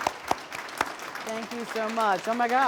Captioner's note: applause